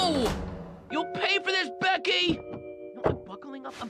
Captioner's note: American accent